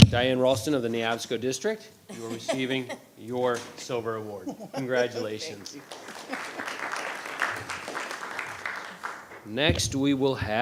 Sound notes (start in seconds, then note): 6.5 audience applauding